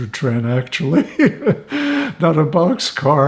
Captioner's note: laughing